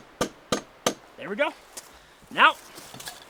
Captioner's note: hammer pounding